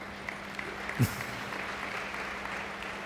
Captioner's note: applauds